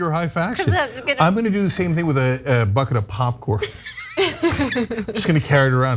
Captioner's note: laugh